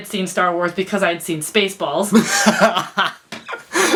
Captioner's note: laughs